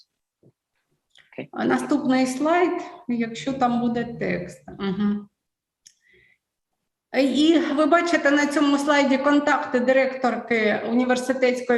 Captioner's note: foreign Language